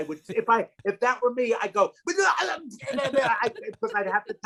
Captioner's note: gagging